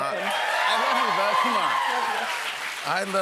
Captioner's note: cheers and applause